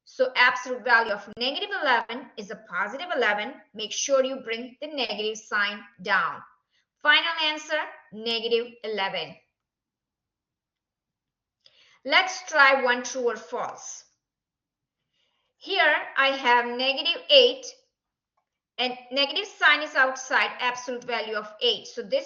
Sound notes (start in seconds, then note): 9.6 silence